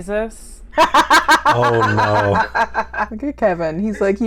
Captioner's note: laughter